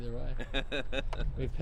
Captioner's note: laughing